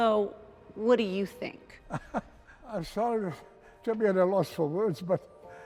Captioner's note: chuckles